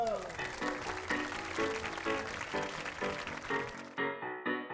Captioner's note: applause